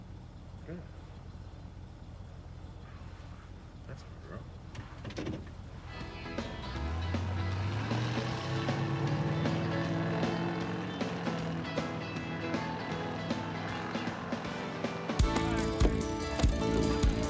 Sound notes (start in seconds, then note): 5.8 engine revving; 5.8 music playing on radio; 15.3 engine revving